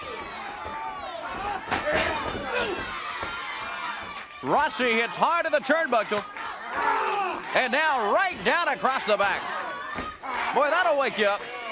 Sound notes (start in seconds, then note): 1.6 crowd cheering